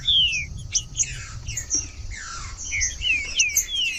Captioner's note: trinca ferro cantando